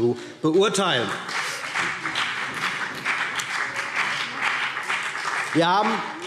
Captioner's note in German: Beifall BÜNDNIS 90/DIE GRÜNEN und vereinzelt CDU